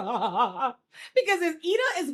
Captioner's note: laughs